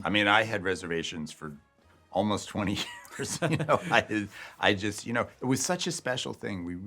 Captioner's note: laughs